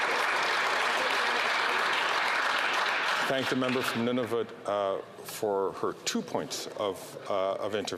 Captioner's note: applause